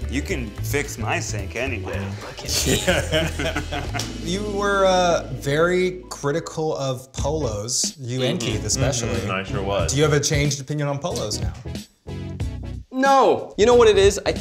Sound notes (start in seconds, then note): 2.3 group laughs; 11.7 upbeat music